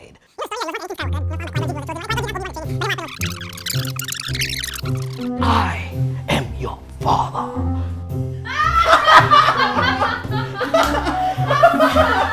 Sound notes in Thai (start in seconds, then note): 8.5 ขำแรง